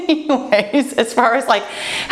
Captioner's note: laughs